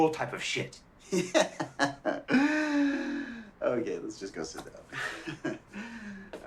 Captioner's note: laughs